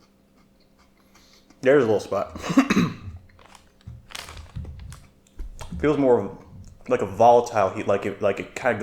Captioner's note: coughing